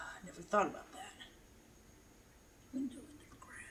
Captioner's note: whispering